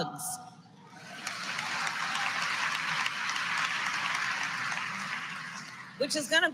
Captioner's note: applause